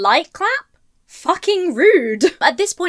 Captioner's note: chuckles